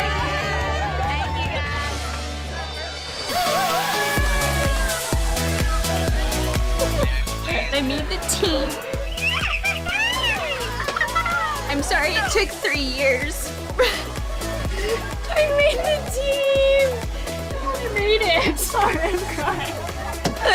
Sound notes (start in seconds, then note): 0.1 cheerleaders cheering; 3.3 girls chatting; 9.5 person on phone yelling